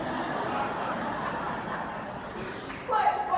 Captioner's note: laughing